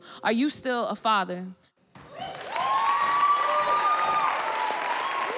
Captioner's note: audience cheers and applauds